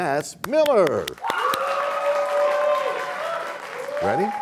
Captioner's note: cheers and applause